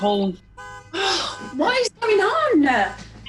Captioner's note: different car alarm blares